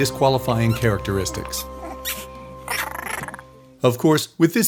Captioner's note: puppy barks, growls